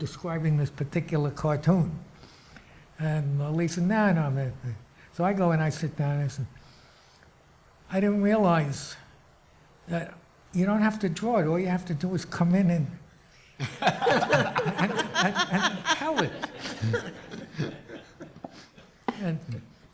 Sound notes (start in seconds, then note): 16.0 audience laughs